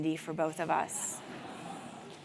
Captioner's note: laugh